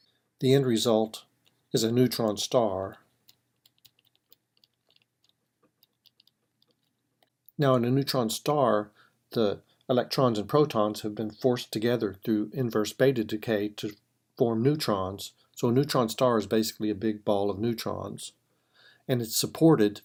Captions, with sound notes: The end result is a neutron star -- [ Typing ] Now in a neutron star, the electrons and protons have been forced together to inverse beta decay to form neutrons. So a neutron star is basically a big bowl of neutrons, and it's supported